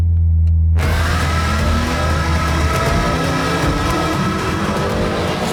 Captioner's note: car engines revving